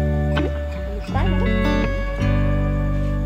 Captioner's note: in Swiss German